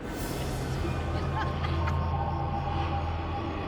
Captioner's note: group laughing